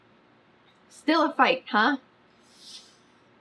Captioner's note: inhales sharply